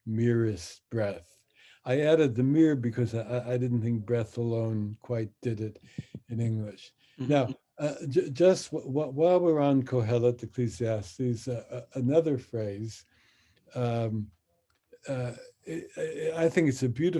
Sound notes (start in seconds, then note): 9.3 speaks in Hebrew